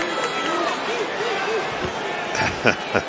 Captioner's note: laughing